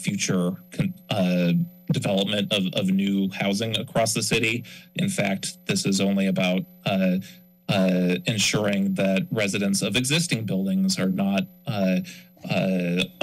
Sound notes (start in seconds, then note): 6.9 mic rustling